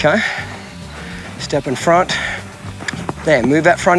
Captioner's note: mouth clicking